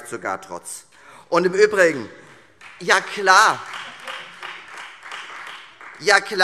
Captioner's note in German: Beifall